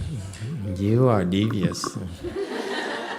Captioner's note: audience laughs